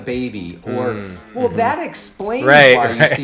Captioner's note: laughs